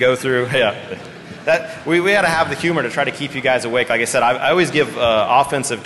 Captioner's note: laughter